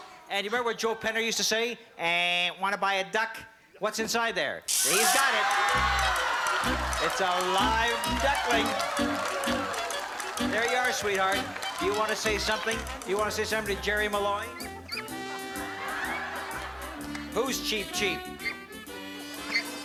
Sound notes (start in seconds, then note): 5.2 cheering and applause; 14.4 chirp chirp; 19.3 chirp chirp